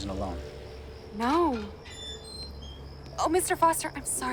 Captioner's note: gate hinges creak